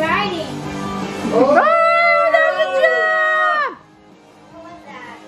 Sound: cheers

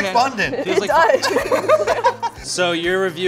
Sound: laughing

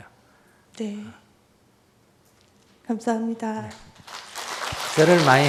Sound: applause

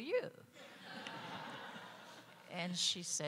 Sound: audience laughing

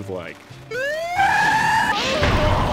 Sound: siren wailing

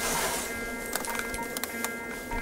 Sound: fast alarm

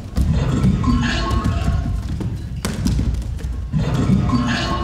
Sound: bodies thumping

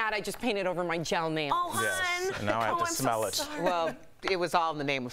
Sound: laughter

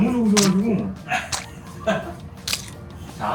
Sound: laughter

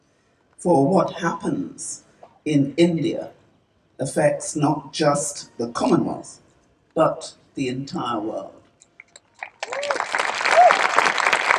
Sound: cheering/Applause

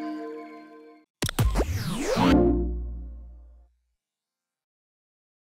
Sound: static buzzes, whooshing, warm tone

